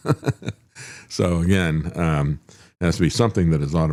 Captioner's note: laughs